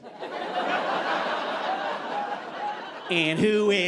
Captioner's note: audience laughing